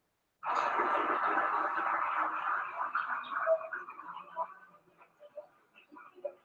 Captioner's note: applause